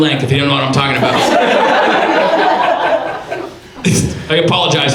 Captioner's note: audience laughs